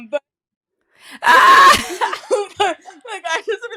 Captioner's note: loughs